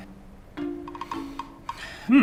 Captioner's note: laughs